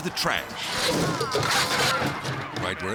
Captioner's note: car thuds